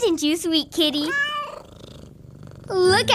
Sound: cat meows and purrs

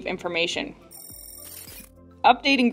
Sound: digital sounds

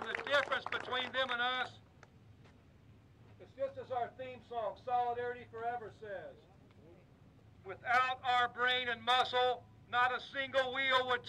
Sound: applause

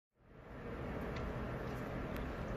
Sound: outdoors sound fades up

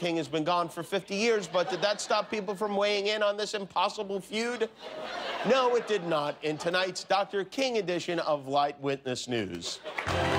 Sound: laughter

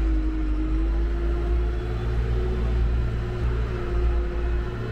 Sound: engine revving continues

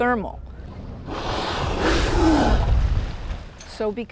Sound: whale spouting

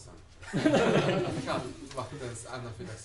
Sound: laughter

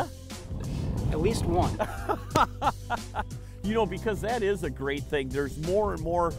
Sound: laughing

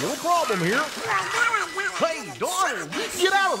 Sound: background Donald upset quacking

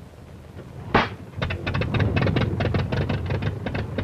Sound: engine starts

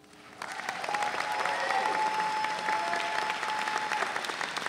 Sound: audience cheering

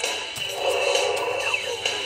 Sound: groans

